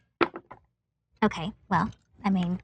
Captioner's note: dice rolling